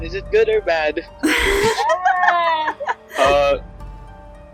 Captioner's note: evil DM laugh